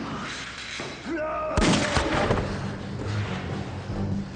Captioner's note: gun shot fires; suspense music